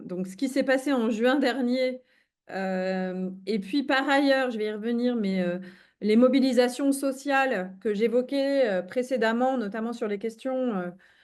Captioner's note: speaking in French